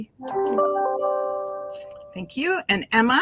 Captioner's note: device chiming